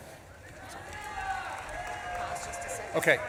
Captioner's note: audience claps and cheers